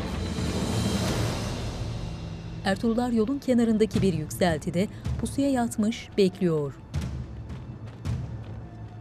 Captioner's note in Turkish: Müzik - Gerilim; Ayak sesleri